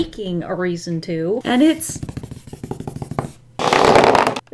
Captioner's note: drumming fingers